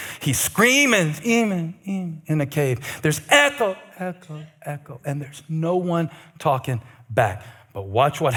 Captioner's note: echo, echo